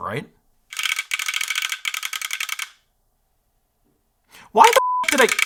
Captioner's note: teeth chattering; beep; teeth chattering